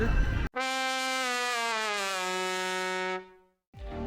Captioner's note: deflating trumpet sound